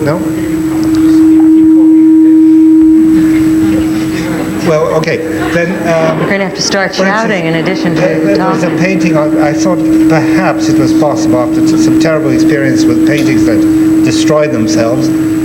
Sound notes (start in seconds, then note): 2.7 monitor buzzing; 2.7 people chattering